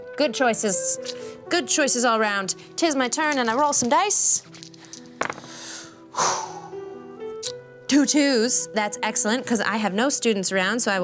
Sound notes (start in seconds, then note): 5.4 exhales sharply